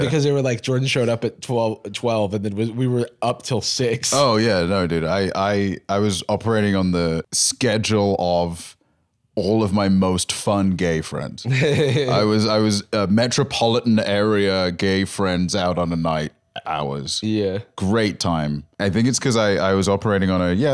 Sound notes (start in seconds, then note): 11.5 laughs